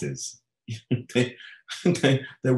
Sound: chuckling

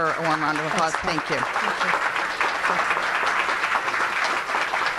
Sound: applause

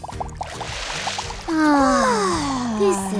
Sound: groaning

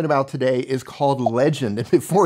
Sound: bubble popping

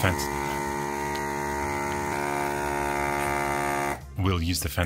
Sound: desoldering tool noise

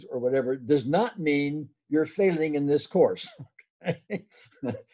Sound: laughs

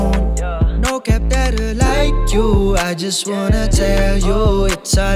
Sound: ooh

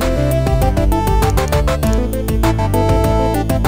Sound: mouse clicking

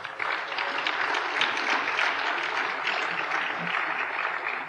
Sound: applause

